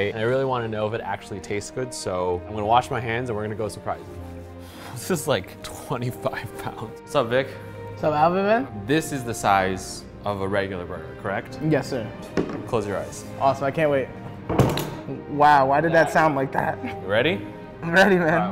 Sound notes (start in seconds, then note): 14.5 platter thumps